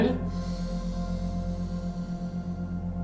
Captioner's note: inhales